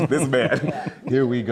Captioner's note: all laughing